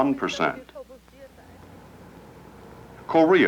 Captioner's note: traffic sounds